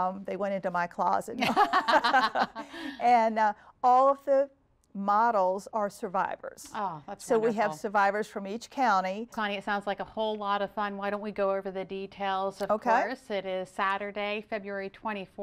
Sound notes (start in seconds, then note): 1.4 laughter